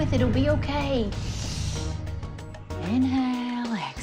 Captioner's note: breaths in